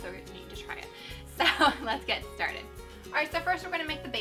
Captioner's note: chuckles